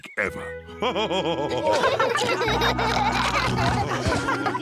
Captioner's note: all laughing